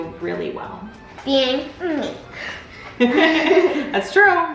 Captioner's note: both laughs